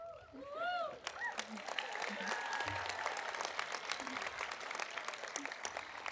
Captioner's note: audience cheering; audience applauding